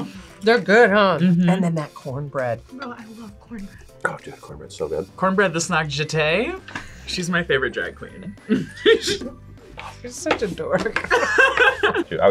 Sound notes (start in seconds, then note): 8.4 laughs; 10.9 both laugh